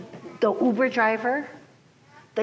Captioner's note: none